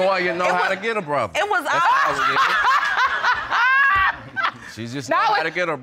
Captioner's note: laughing loudly